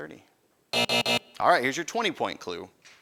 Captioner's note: buzzing